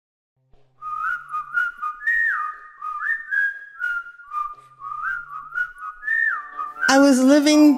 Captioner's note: whistling